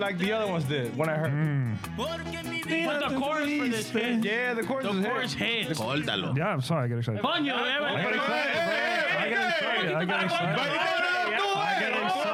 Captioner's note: laughter